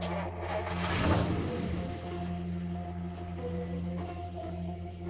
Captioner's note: car engine rumbling